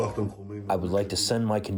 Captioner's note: through translator